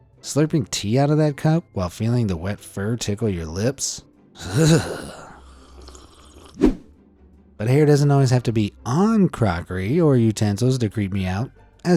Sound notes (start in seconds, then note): 4.4 man sipping; 5.1 shudders; 6.6 image whooshing